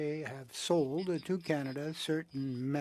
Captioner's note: speaking French